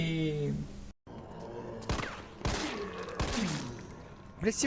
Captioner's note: shots